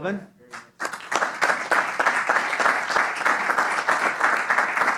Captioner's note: applause